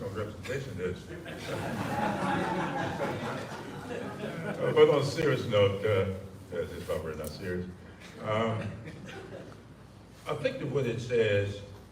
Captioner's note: audience laughs